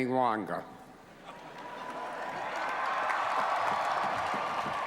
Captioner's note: cheering